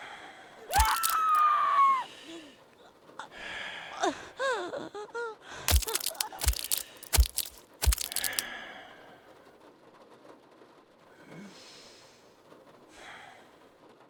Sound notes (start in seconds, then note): 0.0 heavy breathing; 0.6 scream; 2.4 choking dying sounds; 2.4 stabbing; 3.2 heavy breathing; 8.6 heavy breathing stabbing and music you get the gist of it